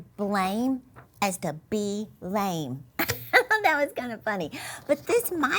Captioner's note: chuckles loudly